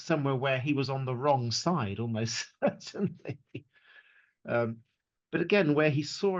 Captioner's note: laughs